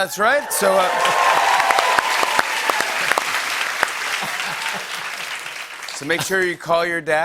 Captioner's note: cheers and applause